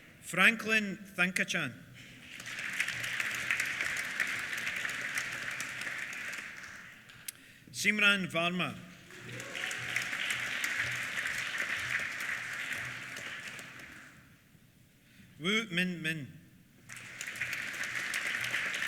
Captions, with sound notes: Franklin Thankachan. (APPLAUSE) Simran Varma. (CHEERS) (APPLAUSE) Wu Minmin. (APPLAUSE)